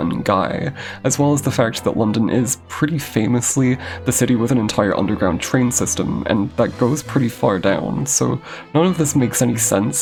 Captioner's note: distressed inhale